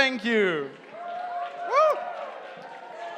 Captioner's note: cheering